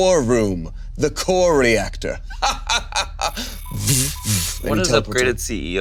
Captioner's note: laughs